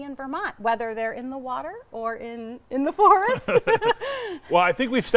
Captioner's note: laughing